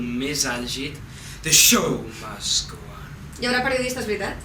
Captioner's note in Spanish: con émfasis